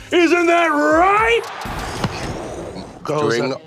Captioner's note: mimics pyrotechnics